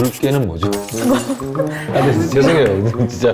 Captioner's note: fails to contain his laughter